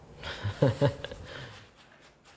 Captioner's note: laughs